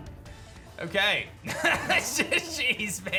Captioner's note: laughs